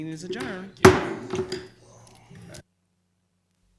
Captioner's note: gavel banging